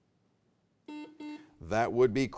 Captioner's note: buzzer beeps